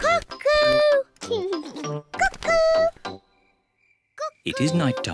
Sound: laughs

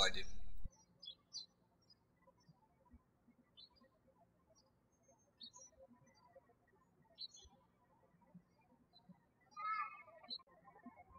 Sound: birds chirping

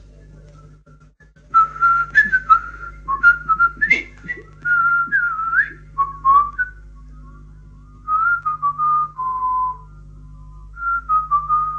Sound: sound - whistles hums a tune

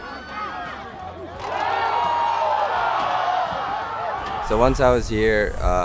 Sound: crowd yelling and cheering

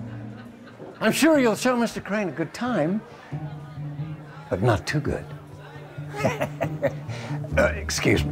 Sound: chuckles

